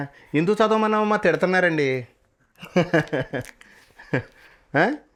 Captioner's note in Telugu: నవ్వు